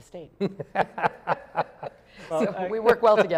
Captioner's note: laughter